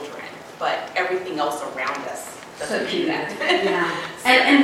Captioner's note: laugh